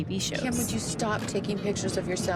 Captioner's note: soundbite of tv show, "keeping up with the kardashians"